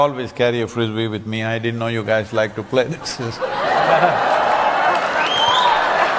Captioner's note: cheering/Applause